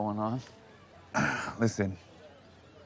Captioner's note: clears throat